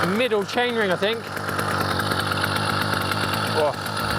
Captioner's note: motor idling